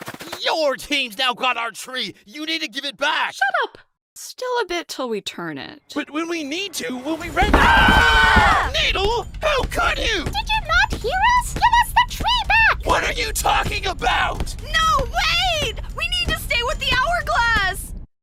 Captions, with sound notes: YOUR team’s now got our tree! You need to give it back! Shut up! Still a bit 'til we turn it... But when we need to, we'll be ready- [DONUT AND BARF BAG SCREAM] NEEDLE?! HOW COULD YOU?! DID YOU NOT HEAR US?! GIVE US THE TREE BACK! WHAT ARE YOU TALKING ABOUT?! NO, WAAAIT! WE NEED TO STAY WITH THE HOURGLASS!